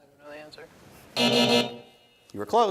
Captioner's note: buzzer sounds